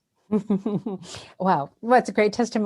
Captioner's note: laughs